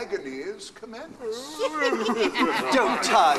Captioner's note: ghosts chatter excitedly